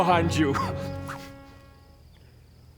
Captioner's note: whoosh?